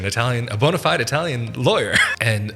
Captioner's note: chuckles